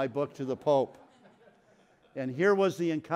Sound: audience laughs

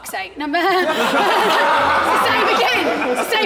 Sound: Sidemen laughing

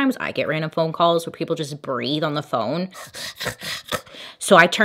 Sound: heavy breathing

